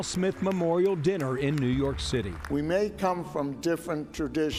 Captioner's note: applause